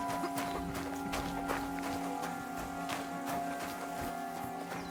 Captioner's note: light music; footsteps pounding